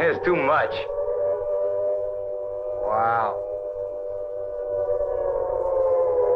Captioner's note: sirens continue wailing